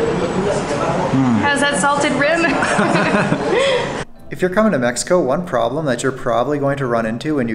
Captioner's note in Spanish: Risas